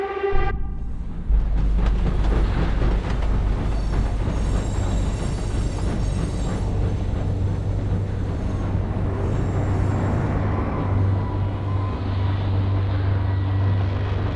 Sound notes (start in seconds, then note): 3.5 train screeching to a halt